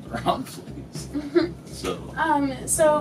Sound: laughs

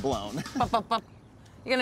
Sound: chuckling

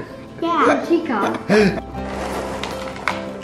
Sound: girl laughing; lighthearted music

